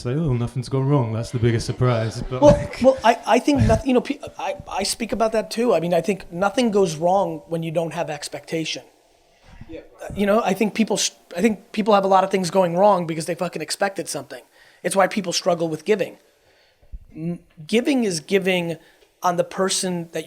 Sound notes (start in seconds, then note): 1.2 audience laughs